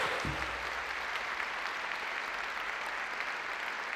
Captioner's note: audience applauds